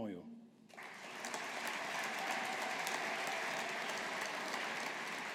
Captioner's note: audience applauding